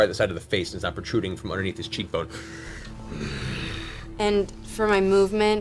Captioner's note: angry breathing